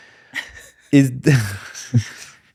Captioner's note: laughing